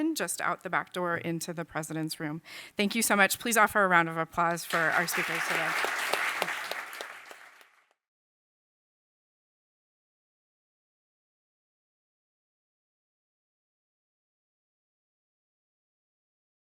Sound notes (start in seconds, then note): 4.6 audience clapping